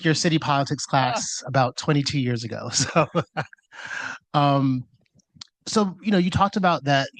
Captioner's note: laughs